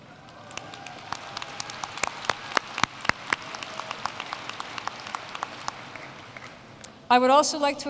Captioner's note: applause